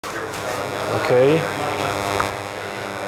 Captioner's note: chattering